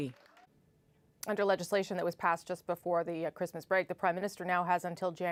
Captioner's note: cheers and Applause